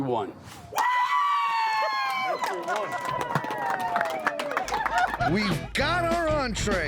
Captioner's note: cheering, clapping